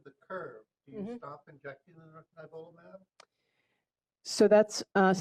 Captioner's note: off microphone